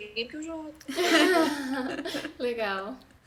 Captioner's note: laughs